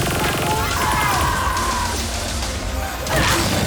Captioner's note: screaming; groaning